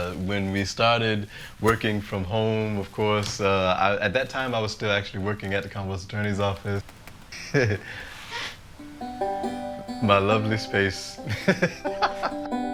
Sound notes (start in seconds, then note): 11.1 chuckles